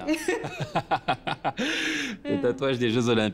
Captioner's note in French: rires